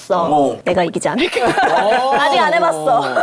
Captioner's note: confident